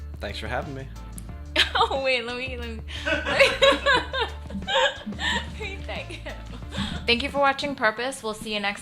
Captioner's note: laughing